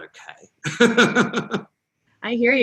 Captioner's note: laughs